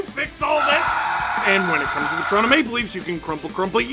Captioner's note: screaming